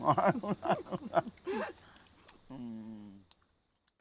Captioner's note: both laughing